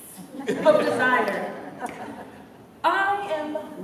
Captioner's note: laughter